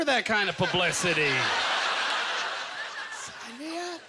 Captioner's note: audience laughter